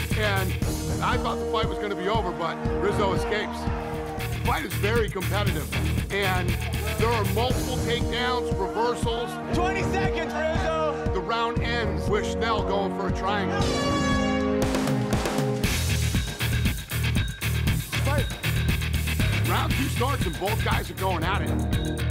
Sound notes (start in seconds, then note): 13.5 horn blaring